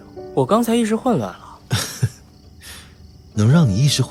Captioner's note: laughs